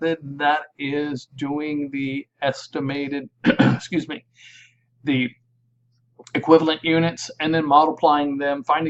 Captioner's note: clearing throat - "excuse me"